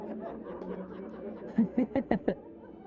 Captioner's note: laughter